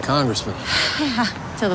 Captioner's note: sighs